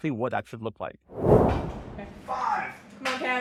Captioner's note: air whooshes